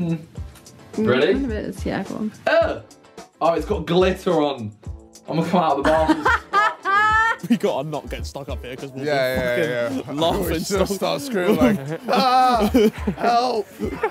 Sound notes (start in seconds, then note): 5.8 woman laughs; 12.2 laughs